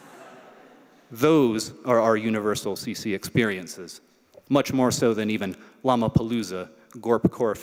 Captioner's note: laughter